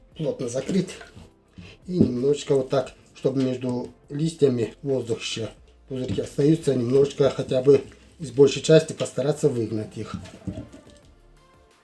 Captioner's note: bubbles